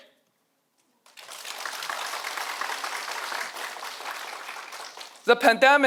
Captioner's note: audience applauding